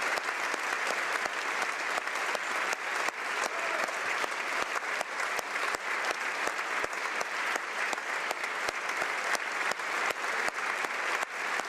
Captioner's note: applause